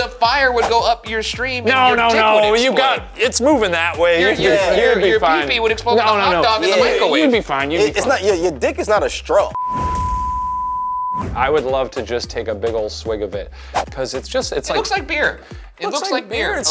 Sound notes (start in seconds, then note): 9.5 screen beeping